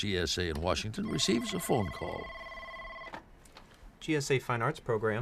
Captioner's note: telephone rings